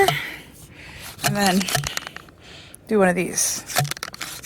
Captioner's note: tool thumping